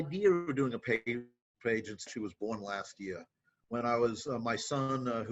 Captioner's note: audio cutting out